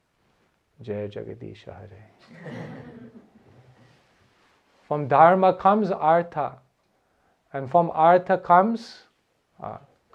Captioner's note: laughter